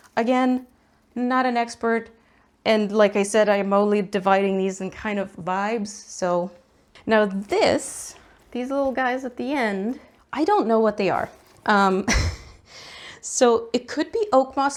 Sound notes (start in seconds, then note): 12.0 laughs